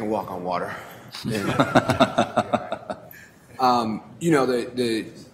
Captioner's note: laughter